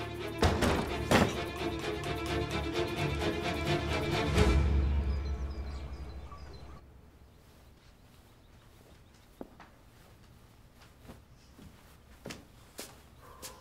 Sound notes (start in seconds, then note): 0.4 table A pounding sound; 0.4 door closing sound; 5.5 birds chirping sound; 8.2 silence